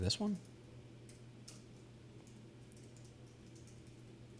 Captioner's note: typing